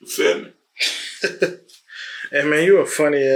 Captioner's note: Crank laughing